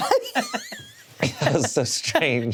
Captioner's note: all laugh